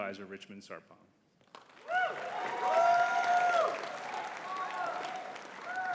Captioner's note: audience cheering and clapping